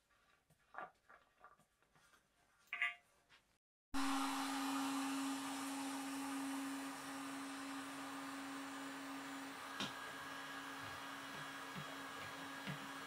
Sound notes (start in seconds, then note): 4.2 tool droning